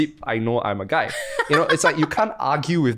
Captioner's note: laughs